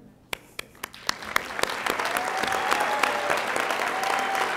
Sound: audience applauding

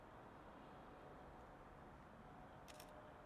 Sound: camera clicks

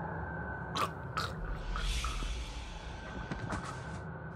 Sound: gurgling

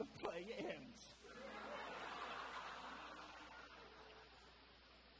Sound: audience laughter

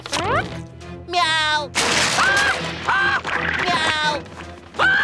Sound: meowing, screaming; screaming

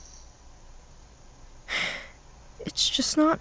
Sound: sigh

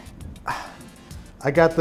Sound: he sighs

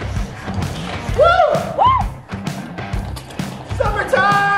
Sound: cheering

